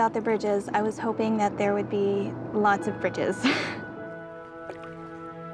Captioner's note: laughs; romantic music